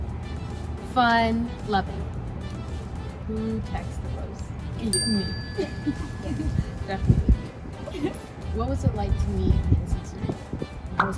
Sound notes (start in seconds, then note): 4.9 bell chimes